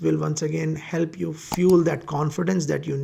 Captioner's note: mouse clicking